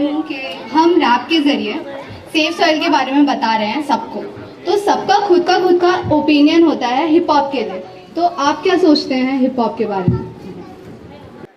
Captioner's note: speaks in Hindi - not transcribed